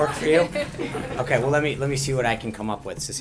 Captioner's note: laughter